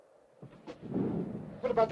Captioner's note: fire roars